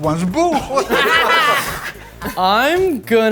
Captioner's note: participants laughing